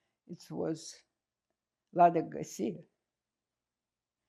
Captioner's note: russian